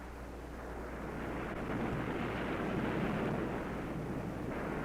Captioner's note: waves crashing